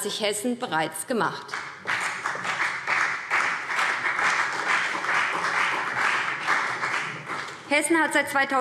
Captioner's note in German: Beifall BÜNDNIS 90/DIE GRÜNEN und CDU